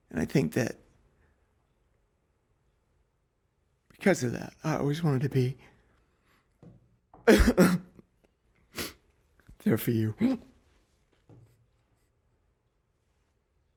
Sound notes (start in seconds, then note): 7.2 sobbing